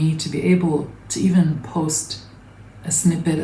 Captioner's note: none